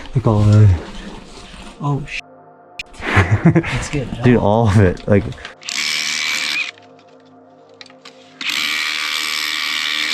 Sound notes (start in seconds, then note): 3.0 beeping; 6.0 drill whirring